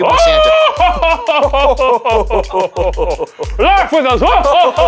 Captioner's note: laughing